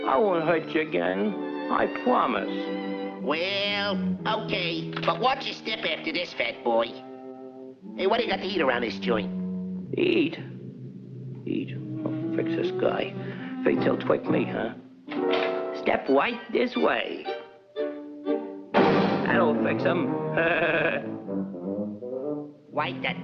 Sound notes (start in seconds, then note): 17.2 suspenseful music; 18.7 door slams; 20.3 laughs